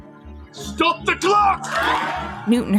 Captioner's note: cheering